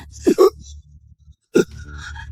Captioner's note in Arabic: سعال